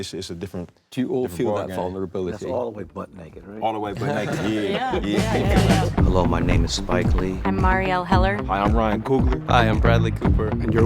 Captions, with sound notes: It's just a different bar. - Do you all feel that vulnerability? - That's all the way butt-naked, right? - All the way butt-naked, yeah. (laughter) (upbeat music)